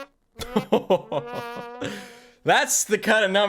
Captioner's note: laughs